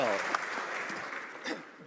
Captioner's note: some Applause